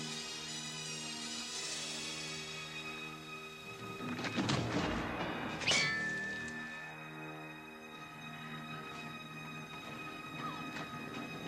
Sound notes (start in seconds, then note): 5.6 spear clangs; 8.3 dramatic music